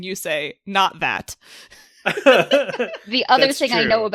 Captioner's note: laughs